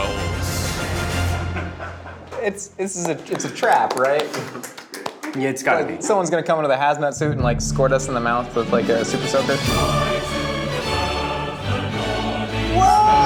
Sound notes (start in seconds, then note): 1.3 group laughs